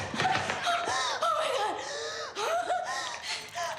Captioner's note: gasping